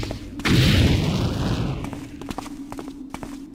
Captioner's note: boom